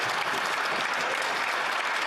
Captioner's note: some Applause